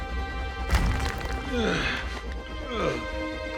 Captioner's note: groaning